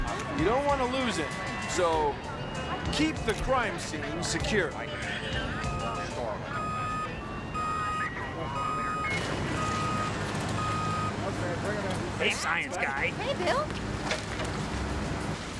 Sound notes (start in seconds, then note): 6.4 beeping